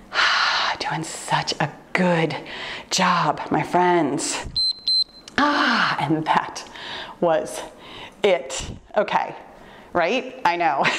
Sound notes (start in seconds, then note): 0.7 loud exhale; 4.6 timer beeps